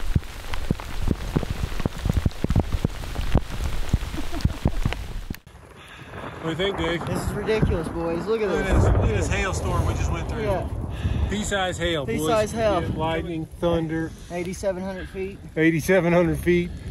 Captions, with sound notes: (laughing) What do you think Dave? This is ridiculous boys, look at this! Look at this hail storm we just went through. Pea size hail boys! Pea size hail. lightning, thunder, 8700 feet 8700 feet